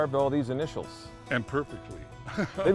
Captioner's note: laughs